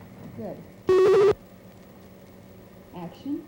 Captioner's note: buzzing/beeping